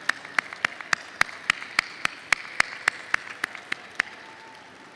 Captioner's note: applause